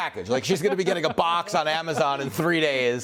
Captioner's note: laughter